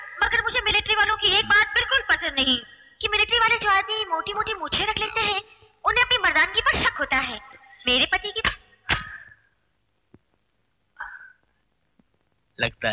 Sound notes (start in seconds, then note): 8.9 tape Recorder Off; 11.0 sighs